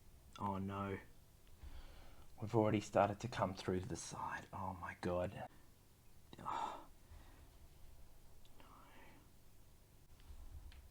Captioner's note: whispering